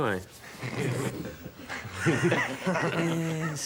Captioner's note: men laugh